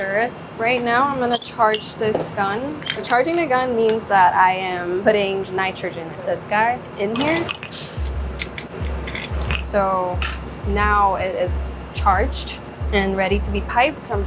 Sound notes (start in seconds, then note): 7.3 gun sprays; 7.6 upbeat ambient music